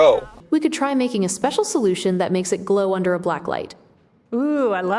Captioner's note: AI Voice